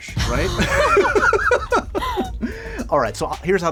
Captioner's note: laughter